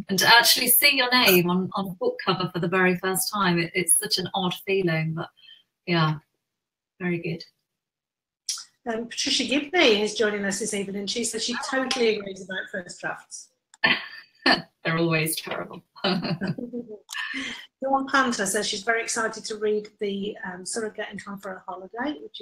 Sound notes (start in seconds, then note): 14.1 laughs; 16.0 laughing